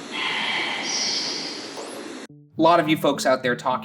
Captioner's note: static crackling; whispering Voice